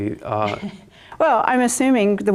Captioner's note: laughs